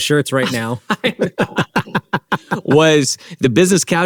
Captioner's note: both laughing